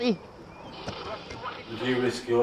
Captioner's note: birds squealing